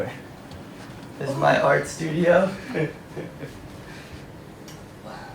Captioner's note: laughs